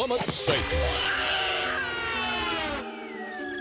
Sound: Duckman yells; screaming

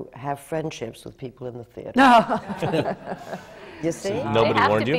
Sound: laughter

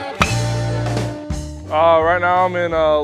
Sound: ball hitting bat

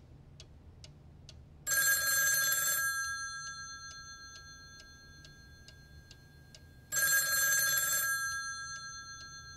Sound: the phone continues ringing

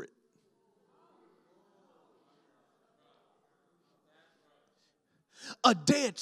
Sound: congregation murmurs

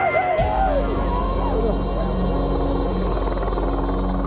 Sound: audio slows; helicopter blades whirring

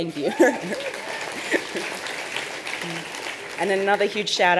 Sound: cheering and applause

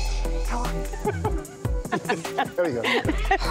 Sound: laughs

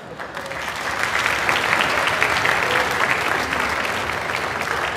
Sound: audience cheers

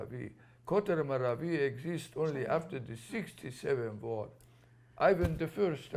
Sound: non-english

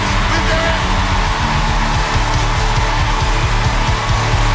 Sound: cheering continues

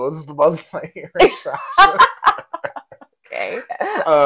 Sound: laughing

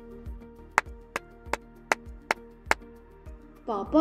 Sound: claps

